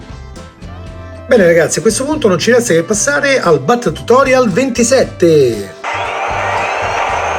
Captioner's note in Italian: Applauso